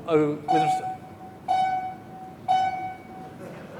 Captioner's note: beeping